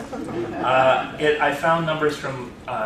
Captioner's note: laughter